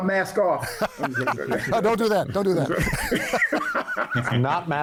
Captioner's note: laughing